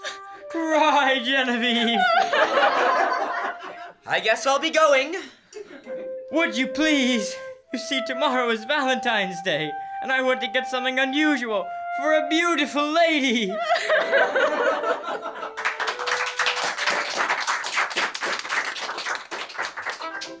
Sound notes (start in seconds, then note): 0.1 cries; 1.2 cries, too; 1.8 laughter; 5.8 weeping; 13.5 laughter; 15.5 applause